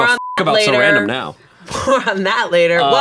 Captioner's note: beep